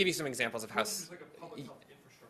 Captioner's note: speaks faintly